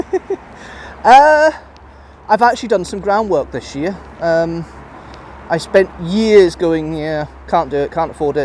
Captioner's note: laughs